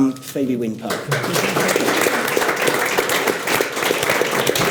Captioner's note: audience applauds